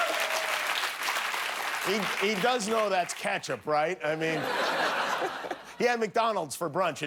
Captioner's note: applause